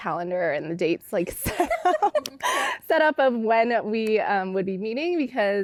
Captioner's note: laughter